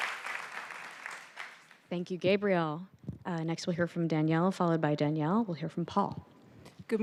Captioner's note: applause